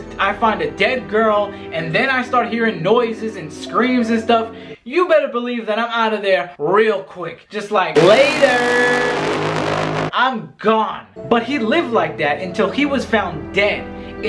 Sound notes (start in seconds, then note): 8.0 motor boat humming